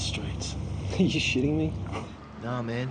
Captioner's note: chuckles